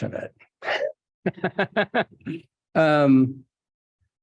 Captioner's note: laughing